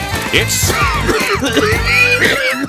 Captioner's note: coughing noises